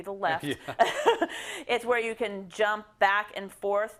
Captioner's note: laugh